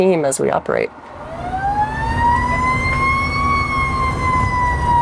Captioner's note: siren wailing